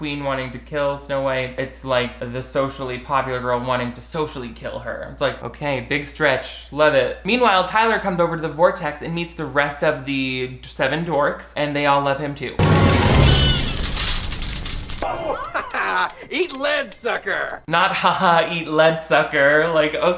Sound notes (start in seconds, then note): 12.6 gun firing